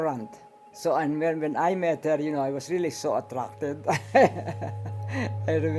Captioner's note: laughs